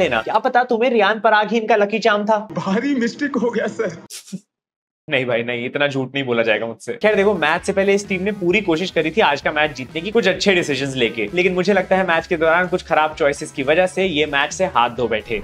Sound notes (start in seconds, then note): 4.1 laughter